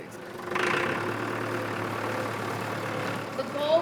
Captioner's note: tractor engine roaring